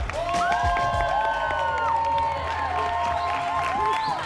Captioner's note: cheering and applause